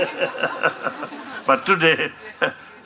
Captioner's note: laughter